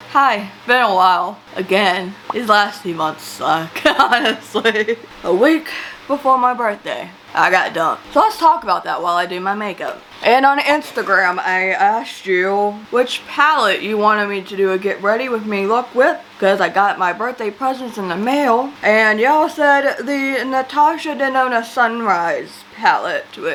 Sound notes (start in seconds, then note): 3.8 laughs